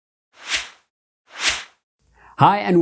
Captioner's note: logo whooshes